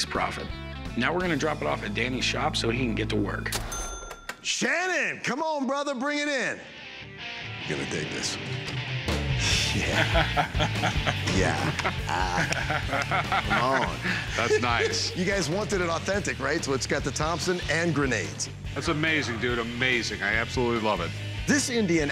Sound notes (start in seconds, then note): 9.4 chuckling